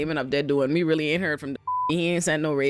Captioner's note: beep